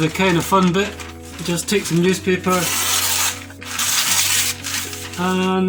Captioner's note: newspaper tears